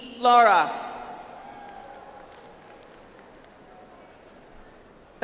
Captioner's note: audience applauds